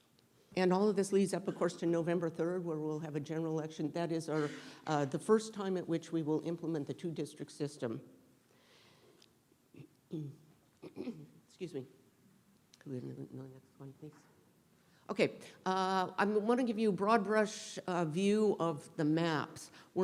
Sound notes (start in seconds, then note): 10.7 coughs